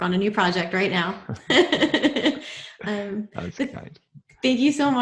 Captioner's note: both laughing